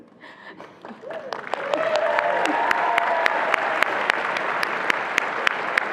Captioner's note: attendees laughing; attendees applauding